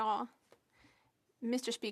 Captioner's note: speaking in French